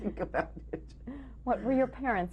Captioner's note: laughs